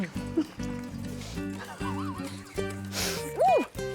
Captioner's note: chuckles